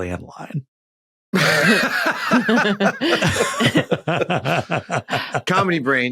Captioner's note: guests laughing